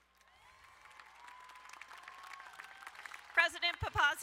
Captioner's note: crowd cheering and applauding